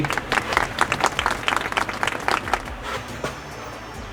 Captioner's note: clapping